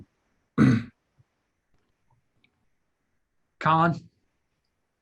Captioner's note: clears throat